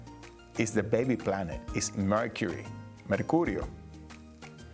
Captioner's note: speaking Spanish